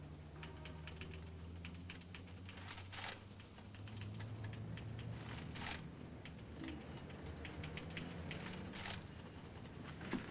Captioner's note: typewriter chattering